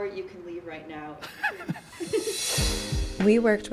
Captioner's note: laughing